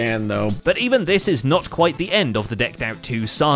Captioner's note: none